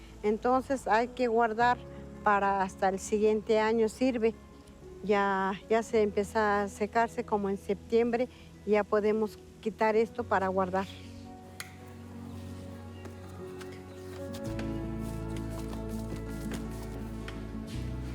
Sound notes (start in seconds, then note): 15.2 wet scraping